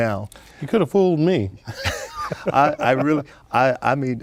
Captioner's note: laughing